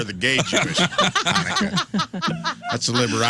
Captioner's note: laughing